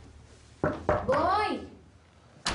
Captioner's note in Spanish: Toques en la puerta